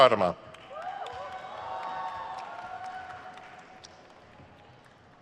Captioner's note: crowd cheers